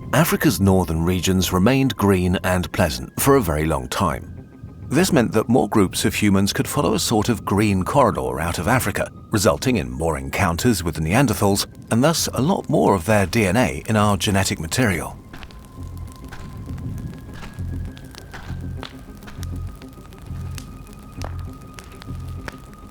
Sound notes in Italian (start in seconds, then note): 16.5 Crepitio del fuoco